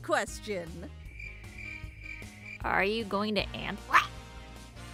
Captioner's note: cricket Sounds